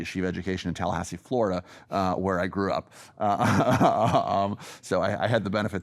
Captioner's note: laughs